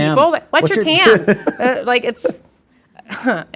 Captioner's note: instructor laughs